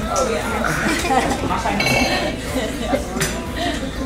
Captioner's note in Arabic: يضحك